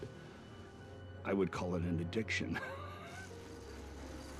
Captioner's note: laughs